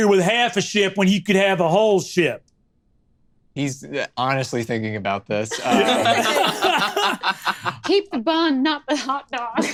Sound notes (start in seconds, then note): 5.6 laughs